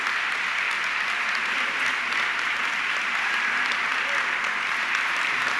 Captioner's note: audience clapping continues